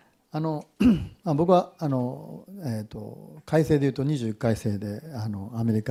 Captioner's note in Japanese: 咳払い